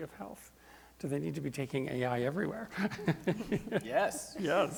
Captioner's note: laughs